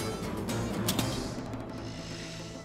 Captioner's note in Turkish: Bıçak düşme sesi